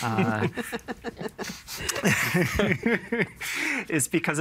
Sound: laughing; all chuckling

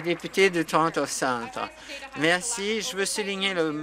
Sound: some Applause

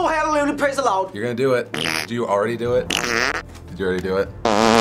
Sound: fart; louder fart

